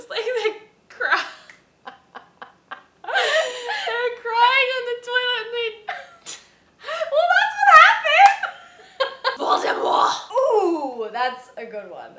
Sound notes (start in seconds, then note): 1.9 breaks laughing